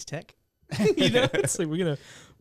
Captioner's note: laughter